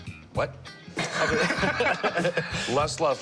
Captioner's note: laughing